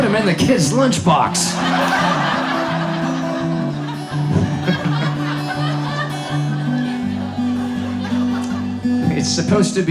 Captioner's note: audience laughs